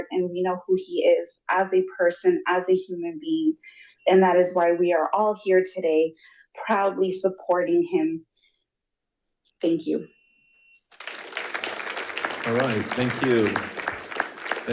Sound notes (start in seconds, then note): 10.9 attendees applauding